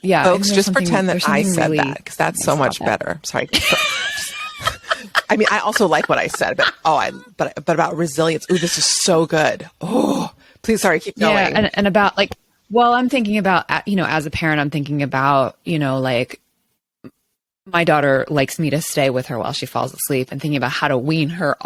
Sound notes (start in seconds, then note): 3.5 laughs